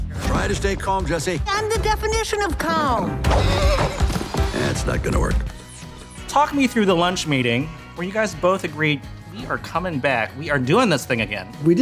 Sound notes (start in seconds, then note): 3.2 horse whinnies